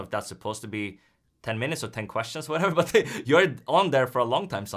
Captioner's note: laughs